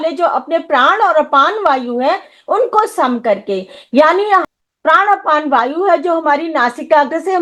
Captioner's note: breath